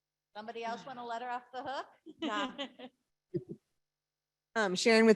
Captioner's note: laughs